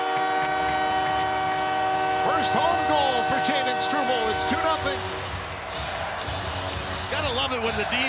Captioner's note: horn; cheering